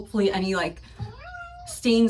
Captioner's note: meow